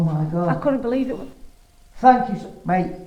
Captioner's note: beeps